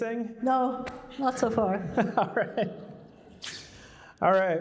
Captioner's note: laughter